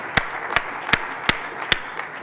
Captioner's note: applause